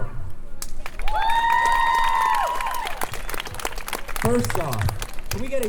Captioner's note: crowd Cheering